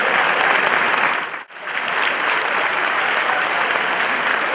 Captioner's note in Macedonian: аплауз